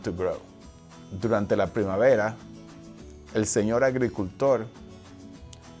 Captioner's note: speaking foreign language